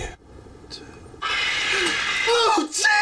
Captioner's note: Baby Rainbow squawks